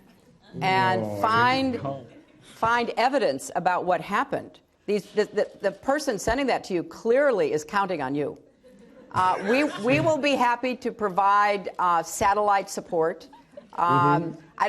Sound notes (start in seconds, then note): 8.6 laughter